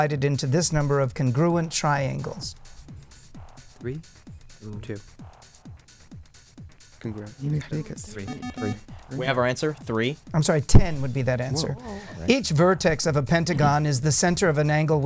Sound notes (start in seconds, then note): 3.9 wispering